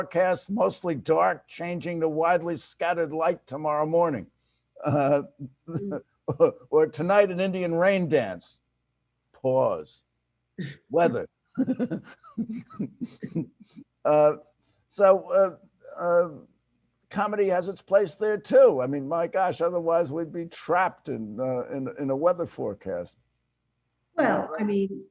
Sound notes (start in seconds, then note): 4.8 chuckles; 11.6 laughs